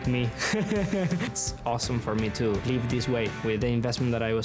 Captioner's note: laughing